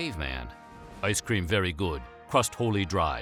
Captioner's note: mimicking a caveman